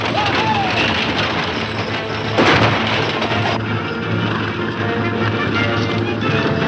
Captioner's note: gunshot; loud hoofbeats and wagons rattling